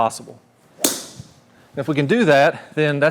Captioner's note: tee clinks